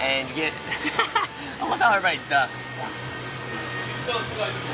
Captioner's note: laughs